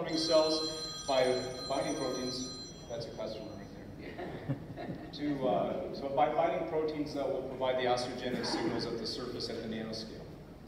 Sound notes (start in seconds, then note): 0.1 cell phone ringing; 4.0 laughter